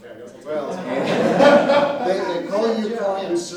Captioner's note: laughter